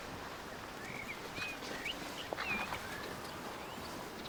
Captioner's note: birds chirping